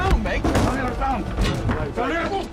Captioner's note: metal crashing; body thudding